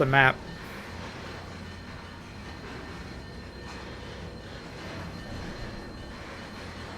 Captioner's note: train whistle